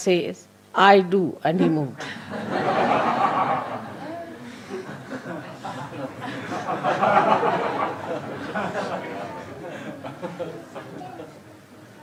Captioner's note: La risa